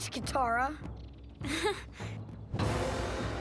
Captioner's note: snickering